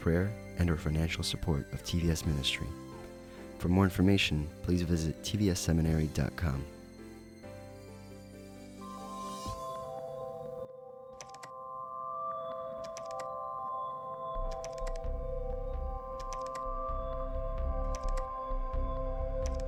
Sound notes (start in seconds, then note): 8.0 instrumental music plays; 11.3 keyboard clacking sound